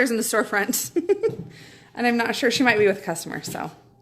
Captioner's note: chuckling